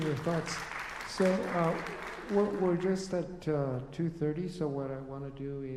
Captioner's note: applause